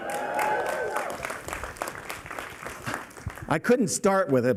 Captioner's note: applause